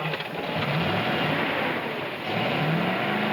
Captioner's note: engine revs